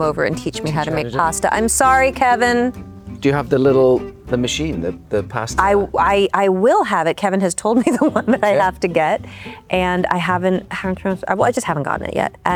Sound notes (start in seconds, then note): 7.7 laughing